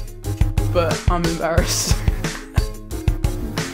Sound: laughs

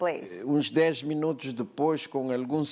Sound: speaking portuguese

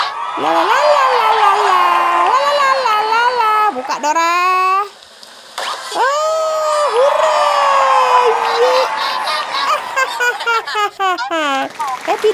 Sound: applause

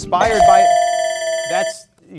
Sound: timer rings

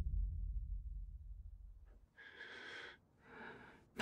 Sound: breathes heavily

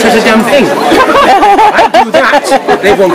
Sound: laughter

